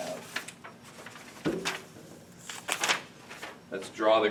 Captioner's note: papers shuffling